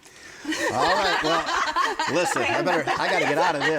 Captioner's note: everyone laughing